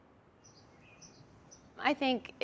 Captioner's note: birds chirping